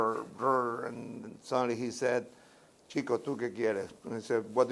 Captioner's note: speaking Spanish